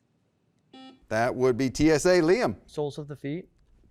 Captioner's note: beep